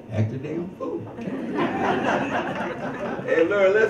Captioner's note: all laugh